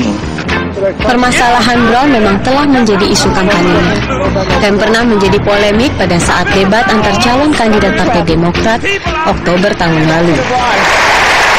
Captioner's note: non-english speech